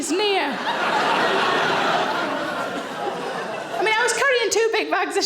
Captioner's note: audience laughs